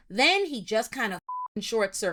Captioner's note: beep